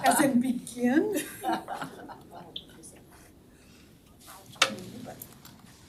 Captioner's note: all laughing